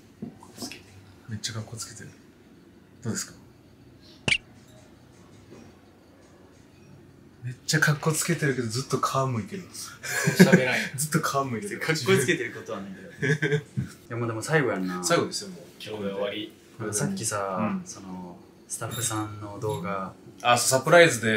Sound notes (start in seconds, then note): 10.0 laughter